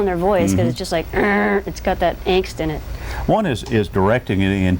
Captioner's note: growls